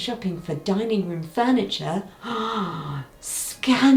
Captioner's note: gasps